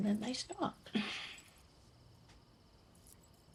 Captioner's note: Clive chuckles